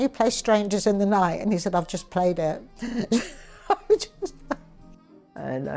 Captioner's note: laughs